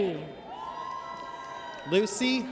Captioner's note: audience cheers